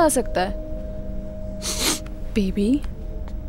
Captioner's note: Rishi Sniffs